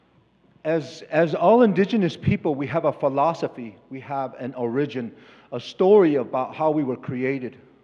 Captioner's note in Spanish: Expositor habla en inglés